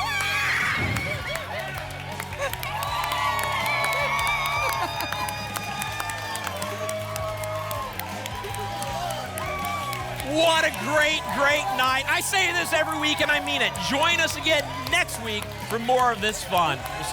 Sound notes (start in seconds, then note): 0.0 applause and cheering; 5.3 applause and cheering